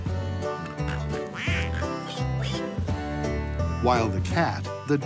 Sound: farm animals quack and snort

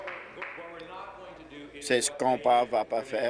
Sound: applause

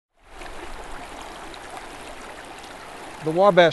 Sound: water flowing

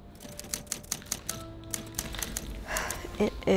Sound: typewriter clacks

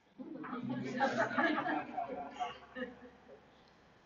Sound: laughter

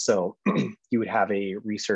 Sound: clearing throat

